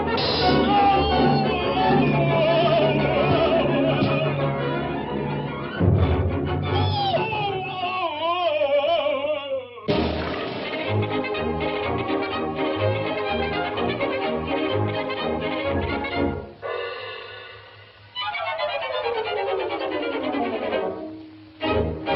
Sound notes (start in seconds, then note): 0.2 Pin Cushion Man crashes and cries out; 6.5 Pin Cushion Man squeaks and groans; 9.9 upbeat music; 21.9 dramatic music